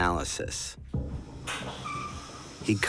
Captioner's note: squeaking